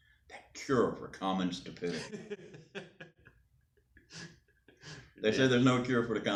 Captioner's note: laughs